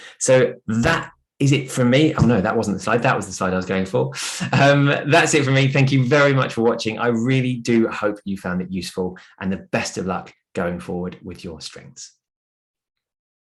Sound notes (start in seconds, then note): 4.2 chuckles